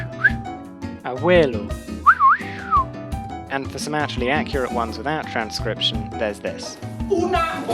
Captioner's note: whistle